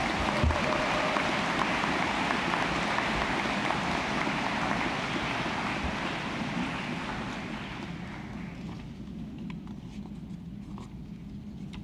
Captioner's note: applause